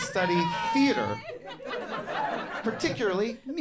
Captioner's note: audience laughing